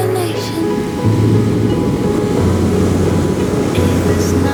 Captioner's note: waves crashing